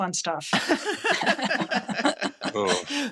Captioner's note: laughter